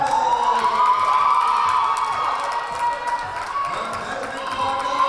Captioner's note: cheering and applause